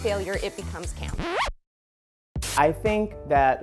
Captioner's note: record scratching